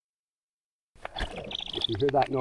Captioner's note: owlet cries and bill-clacks